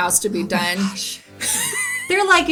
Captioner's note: laughs